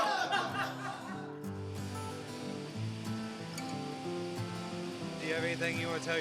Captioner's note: laughing; slow upbeat music; plane engine roaring